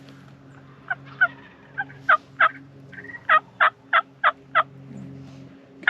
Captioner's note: bird squawking continues